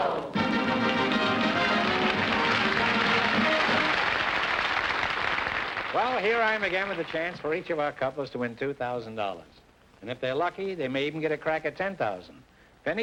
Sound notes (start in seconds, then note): 4.0 applause